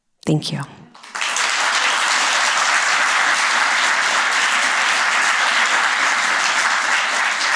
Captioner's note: applause